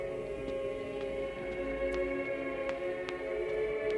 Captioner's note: none